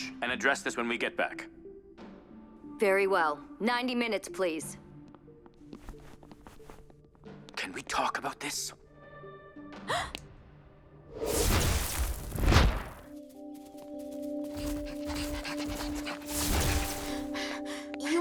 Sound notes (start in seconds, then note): 9.9 Jessa gasps; 11.2 magical buzzing; 14.2 Jessa pants; 16.3 magical buzzing